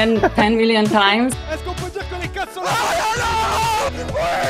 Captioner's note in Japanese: 興奮した会話